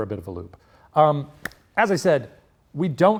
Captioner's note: clapping hands